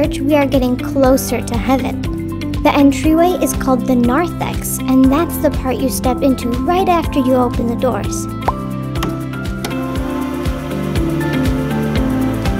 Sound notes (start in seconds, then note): 8.5 bubble popping; 9.8 bright music